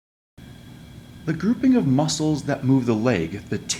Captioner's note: voiceover